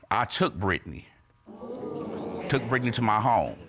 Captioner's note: audience exclaims